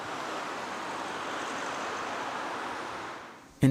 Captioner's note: traffic noise